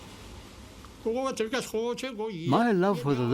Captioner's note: speaking in foreign language